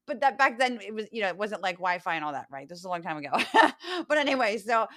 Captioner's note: laugh